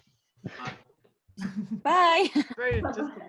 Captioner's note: laughs